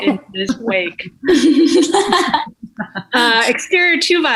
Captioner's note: actors laughing